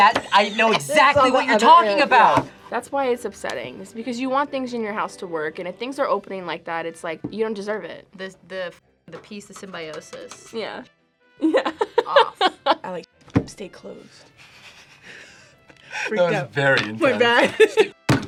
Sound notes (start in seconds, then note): 11.5 laughs; 14.4 both laugh; 17.0 laughs